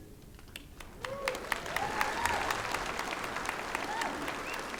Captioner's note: applause